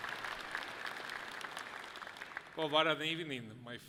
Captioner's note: audience clapping loudly